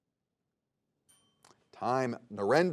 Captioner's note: bell dings